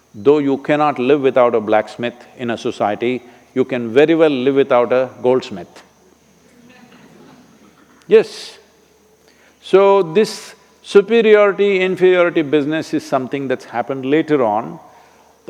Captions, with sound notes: though you cannot live without a blacksmith in a society, you can very well live without a goldsmith (Laughter). Yes! So, this superiority, inferiority business is something that's happened later on.